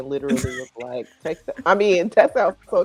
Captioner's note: laughing